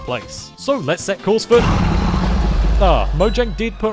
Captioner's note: dragon roars